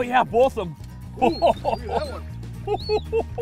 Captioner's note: laughing